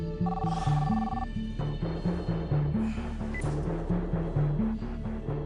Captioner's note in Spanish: Suena el teléfono